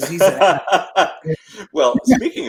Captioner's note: laughs